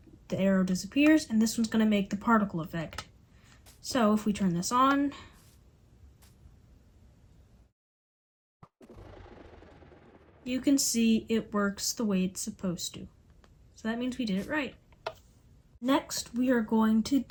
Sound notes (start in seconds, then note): 5.3 pause